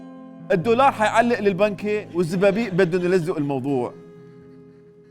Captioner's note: Lebanese accent